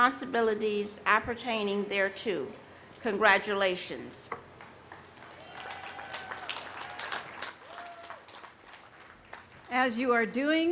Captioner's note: applause